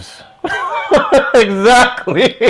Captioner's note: laughs